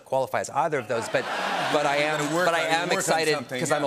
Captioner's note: laughter